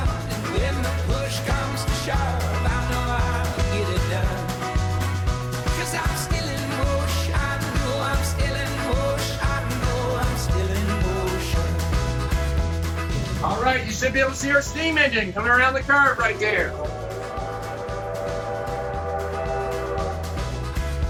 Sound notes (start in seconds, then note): 16.6 train whistle howling